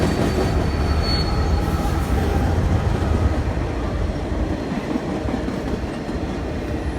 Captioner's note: squeal of brakes